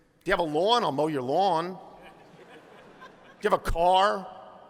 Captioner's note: laughter